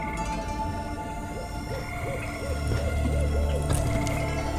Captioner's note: birds chirp